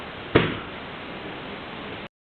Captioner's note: thump